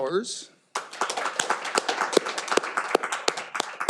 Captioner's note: all applauding